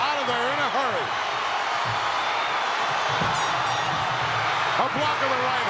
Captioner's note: audience cheering